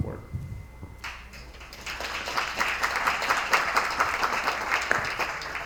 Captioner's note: attendees applauding